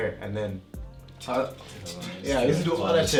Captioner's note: imitates pen tapping